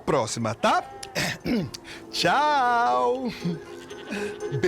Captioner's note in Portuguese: Chico pigarreia